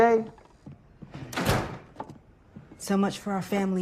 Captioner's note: door slams